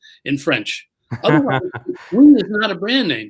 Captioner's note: chuckles